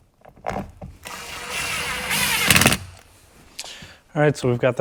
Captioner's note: drill whirring and buzzing